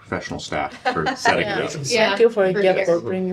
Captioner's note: laughter